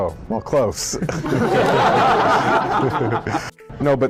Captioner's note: laughs